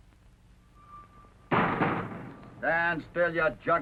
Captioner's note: clanging